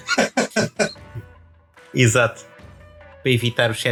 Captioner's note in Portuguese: risos